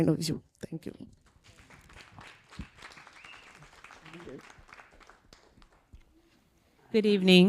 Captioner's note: applause